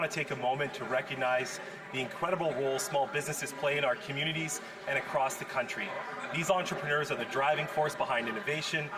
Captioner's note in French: voix de l'interprète